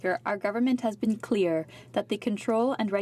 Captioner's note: speaking french